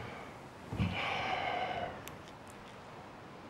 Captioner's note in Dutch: Hij zucht